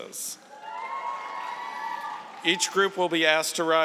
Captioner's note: cheering and applause